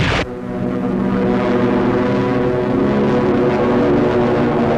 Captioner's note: planes flying overhead